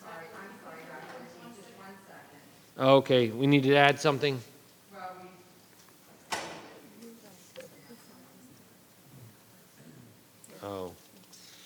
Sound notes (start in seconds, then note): 6.8 people murmuring